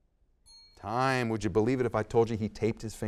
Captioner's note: bell dings